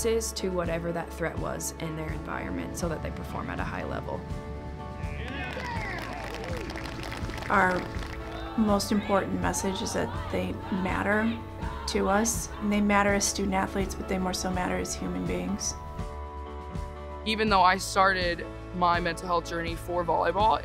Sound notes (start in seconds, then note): 6.4 gentle music; 8.1 team chanting